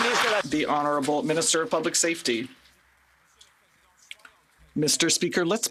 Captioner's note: some Applause